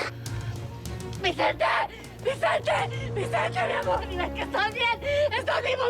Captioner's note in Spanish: sollozando